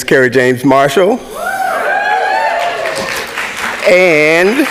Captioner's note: audience clapping